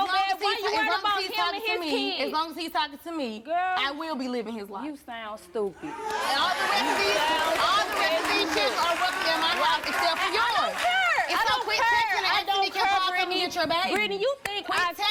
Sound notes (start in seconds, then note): 6.0 audience clapping